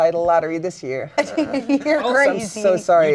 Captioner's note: laughs